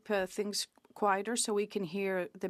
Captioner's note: speaking French